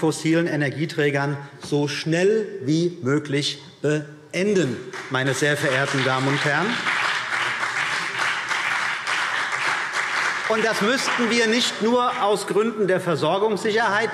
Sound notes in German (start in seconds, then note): 4.9 Beifall CDU und BÜNDNIS 90/DIE GRÜNEN